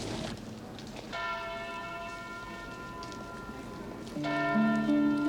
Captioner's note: bell tolling